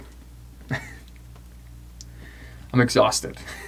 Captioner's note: laughs